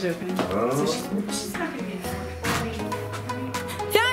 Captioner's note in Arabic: مورمورينغ